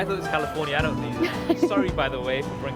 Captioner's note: Justine laughs